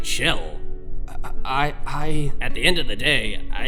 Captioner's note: stutters